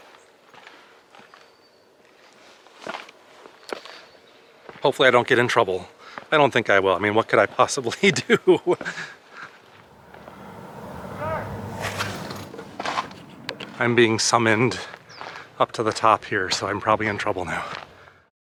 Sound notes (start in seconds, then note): 10.6 far off voice; 12.2 rustling noise